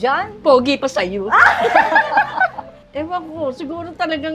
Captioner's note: laughs